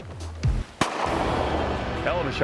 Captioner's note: gun shot